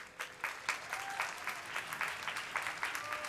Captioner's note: applause